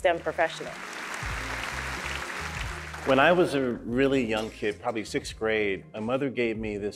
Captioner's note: applause